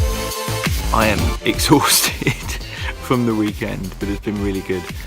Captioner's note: laughs